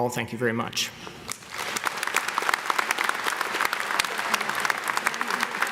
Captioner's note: audience clapping